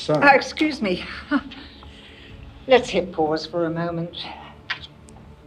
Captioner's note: nervous laugh